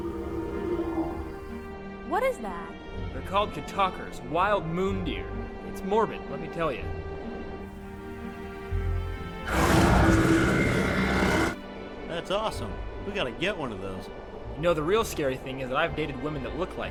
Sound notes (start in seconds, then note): 0.6 creature calling; 9.4 creature roaring